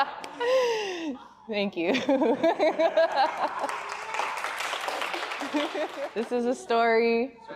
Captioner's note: laughing; laughs